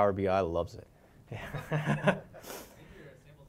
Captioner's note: laugh